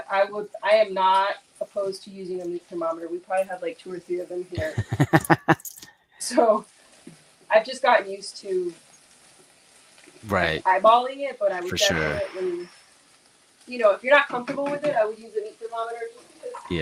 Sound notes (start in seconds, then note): 4.5 laughs